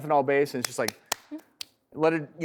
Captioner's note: rubbing Hands Together